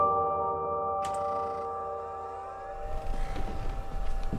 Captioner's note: computer clicks